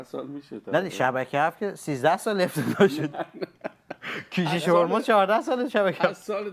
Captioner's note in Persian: خنده